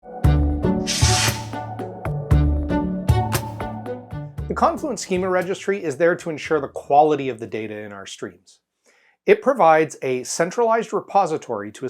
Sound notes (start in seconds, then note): 0.2 mid-tempo instrumental music; 0.8 logo swooshes